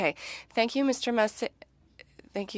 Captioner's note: speaking French